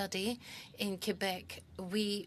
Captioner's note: speaking French